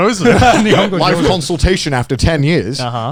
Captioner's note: both laughing